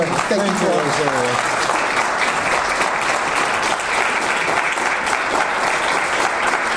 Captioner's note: audience applause